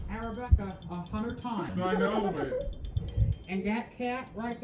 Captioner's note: altered/distorted